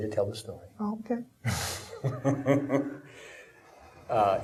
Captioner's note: laughing